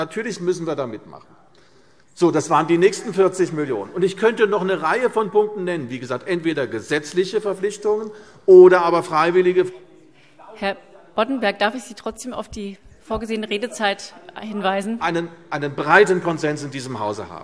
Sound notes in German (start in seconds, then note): none